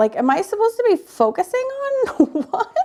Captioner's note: laughs